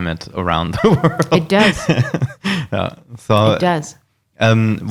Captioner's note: laughing